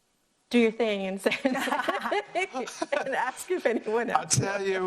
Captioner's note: laughs